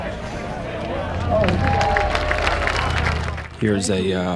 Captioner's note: applause